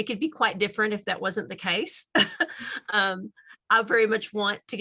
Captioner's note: laughs